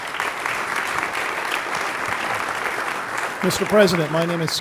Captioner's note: applause